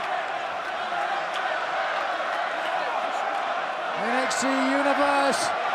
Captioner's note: crowd cheering